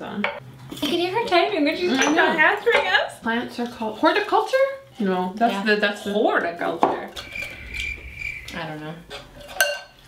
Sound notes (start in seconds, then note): 7.2 crickets chirp